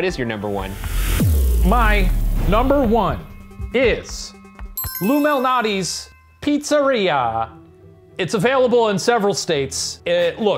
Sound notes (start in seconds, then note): 0.1 tense music; 4.7 ding